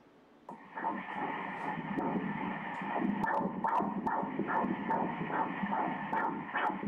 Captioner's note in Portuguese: batimentos cardíacos